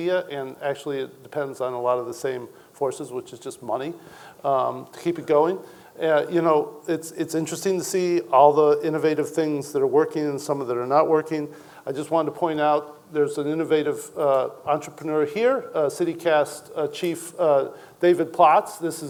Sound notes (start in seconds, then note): none